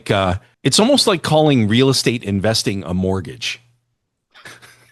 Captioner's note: laughter